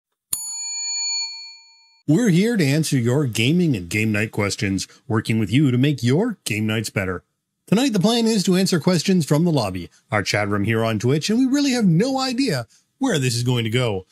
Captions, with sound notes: (bell ringing) We're here to answer your gaming and game night questions, working with you to make your game nights better. Tonight, the plan is to answer questions from the lobby, our chat room here on Twitch, and we really have no idea where this is going to go.